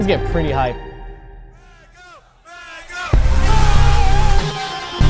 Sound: crowd

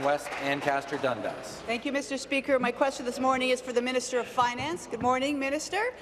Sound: some Applause

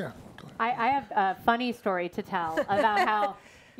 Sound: panelists laugh

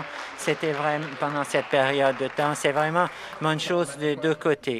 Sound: some Applause

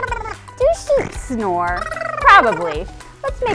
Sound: snores and bleats

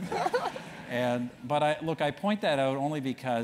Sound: laugh

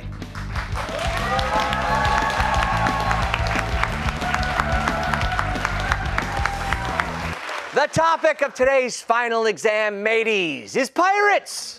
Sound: cheers and applause

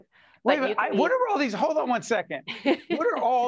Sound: laughing

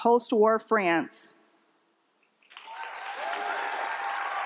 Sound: applause

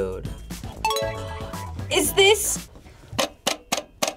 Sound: bell dings

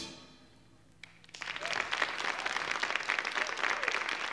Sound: audience applauding

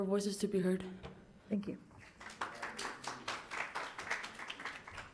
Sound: attendees clapping

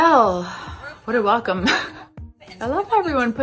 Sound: laughs

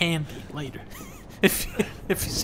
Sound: laughing

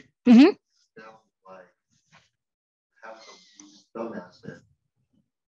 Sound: participant faintly speaking

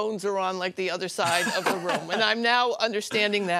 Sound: laughter

